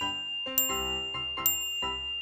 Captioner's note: ting!